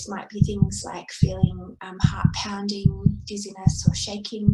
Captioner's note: SFX: heart beating stops